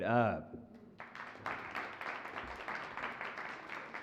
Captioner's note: applause